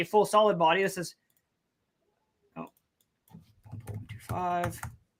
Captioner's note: keyboard clacking